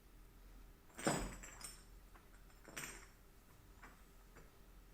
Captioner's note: glass clinking